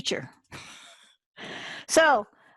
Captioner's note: chuckles